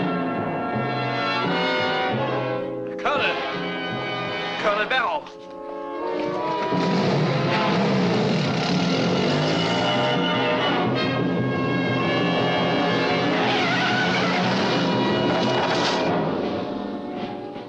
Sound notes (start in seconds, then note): 6.8 engine starts; 13.6 tires squeal